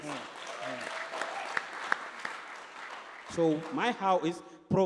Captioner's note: applause